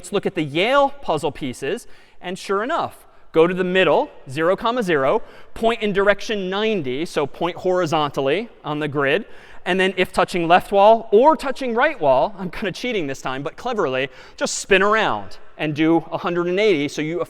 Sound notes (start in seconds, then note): none